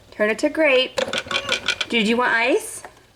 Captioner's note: machine rattles